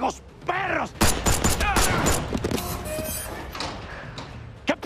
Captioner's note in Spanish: Disparos; Quejidos